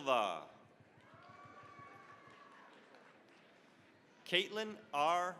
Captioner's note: cheering, applause